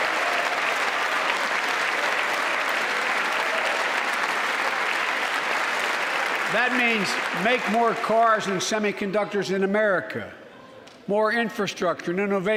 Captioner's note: applause